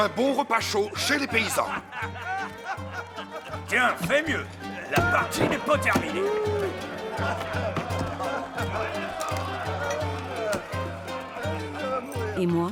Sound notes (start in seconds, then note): 5.8 men laughing; 11.3 laughs; 11.6 upbeat music continues